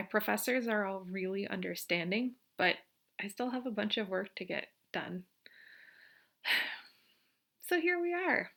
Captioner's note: sigh